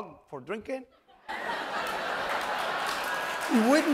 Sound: laughter

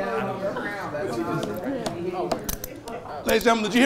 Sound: low speaking

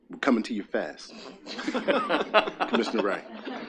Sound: attendees laughing

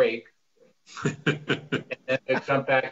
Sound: laughs

